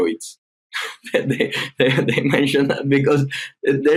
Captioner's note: chuckling